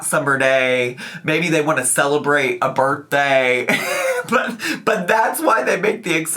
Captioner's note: laughs